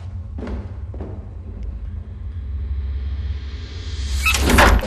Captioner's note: footsteps on stairs